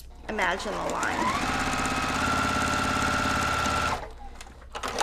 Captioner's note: machine sewing